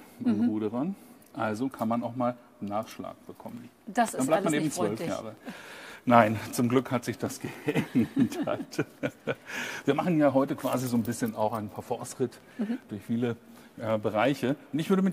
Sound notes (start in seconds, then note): 7.4 chuckles